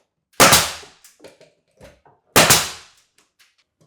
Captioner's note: nail gun popping